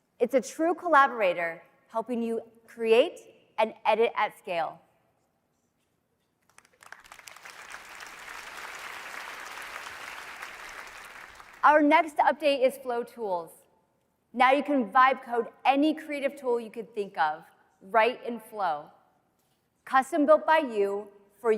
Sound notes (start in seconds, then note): 6.5 audience applauding